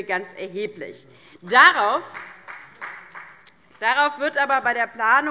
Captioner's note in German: Beifall